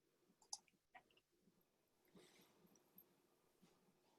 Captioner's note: mouse clicks